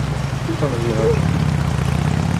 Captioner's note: sobs